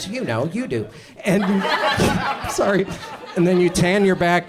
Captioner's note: audience laughs